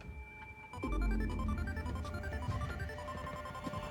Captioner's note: phone rings